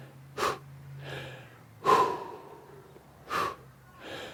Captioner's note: breathes sharply